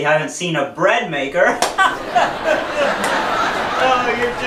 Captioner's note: laughing